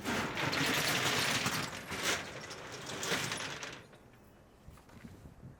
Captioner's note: metal door sliding open